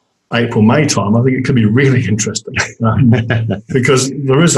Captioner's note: laughs